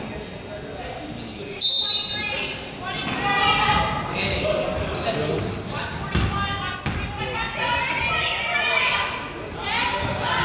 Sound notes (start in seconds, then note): 1.6 whistle blows